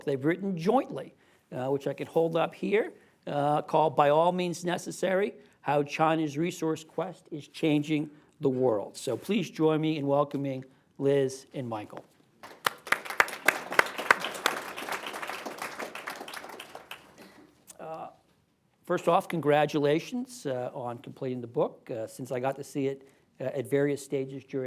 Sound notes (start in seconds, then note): 16.5 applause